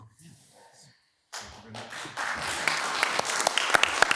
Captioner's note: hands clapping